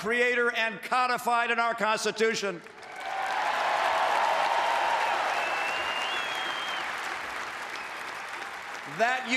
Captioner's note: applause